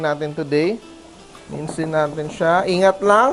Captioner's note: sizzle